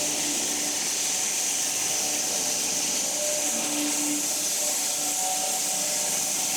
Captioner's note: woodcutting machine hissing continues